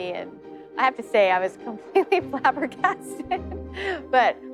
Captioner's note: laughs